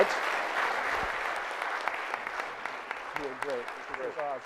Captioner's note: audience applauds